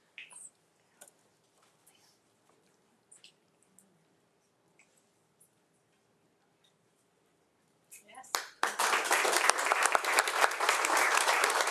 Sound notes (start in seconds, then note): 8.4 crowd applauding